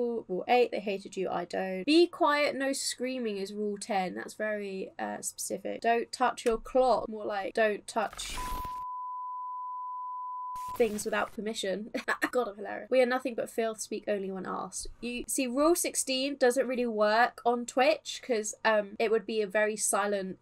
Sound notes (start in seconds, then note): 8.3 TV 'technical-difficulties/off-air' beep; 11.7 laughs